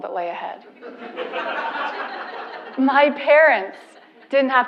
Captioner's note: laugh